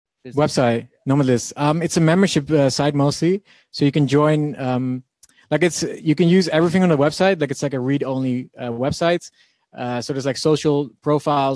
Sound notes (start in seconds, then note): none